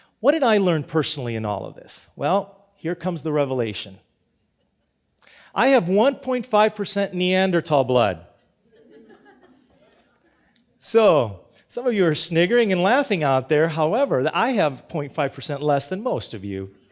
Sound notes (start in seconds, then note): 8.6 mild laughter